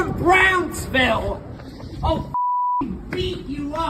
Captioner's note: beep